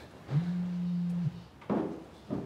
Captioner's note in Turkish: Telefon titriyor